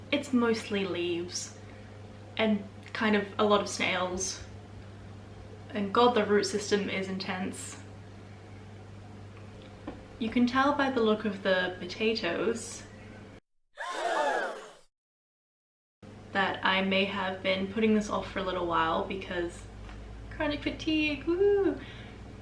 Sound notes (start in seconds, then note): 13.8 crowd shocked gasp sound